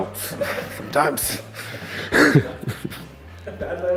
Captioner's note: chuckles